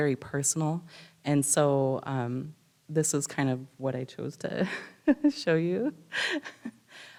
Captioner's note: laughs